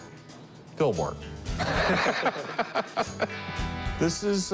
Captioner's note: laughter